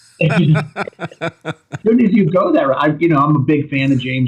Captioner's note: laughter